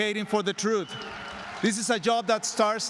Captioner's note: cheers and applause